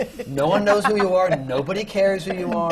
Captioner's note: laughter from the panel